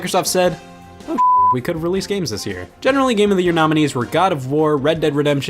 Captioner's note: beep